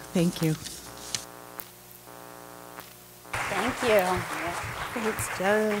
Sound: applause

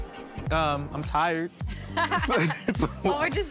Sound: laughs

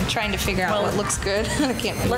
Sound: laughs

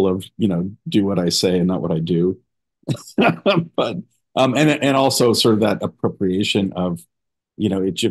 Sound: laughter

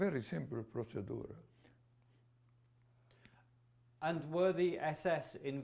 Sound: non-english

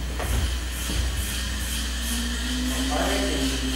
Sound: drone whirring

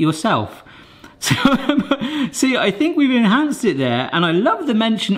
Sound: laughs

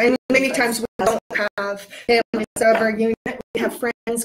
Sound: audio distorts

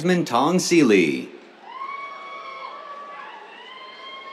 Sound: cheers

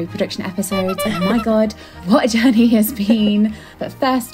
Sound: clown horn

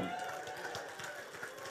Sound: congregation applauding

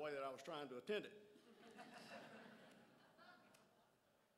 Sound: crowd laughs

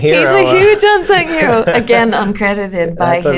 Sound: laughter

